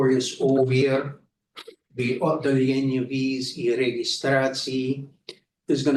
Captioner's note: speaking in foreign language